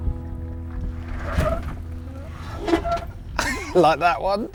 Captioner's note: clunks